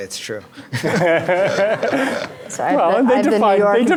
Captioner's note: laughing